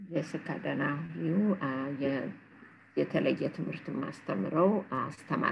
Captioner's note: speaking in foreign language